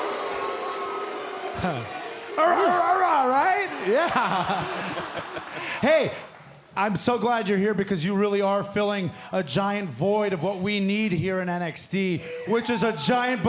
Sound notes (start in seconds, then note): 0.0 cheers & boos; 5.6 shouting